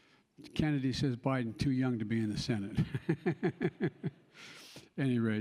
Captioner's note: laughs